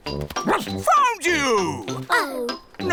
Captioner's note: barks